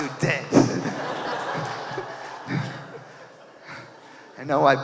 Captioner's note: audience laughing